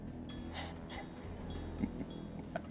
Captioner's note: laughing